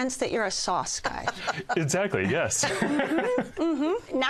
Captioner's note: laughs